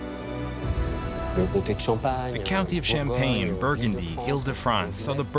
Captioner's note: speaking French